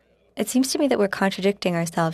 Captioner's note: speaking French